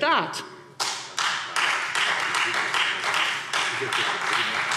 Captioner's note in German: Beifall Freie Demokraten